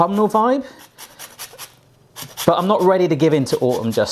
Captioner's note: grates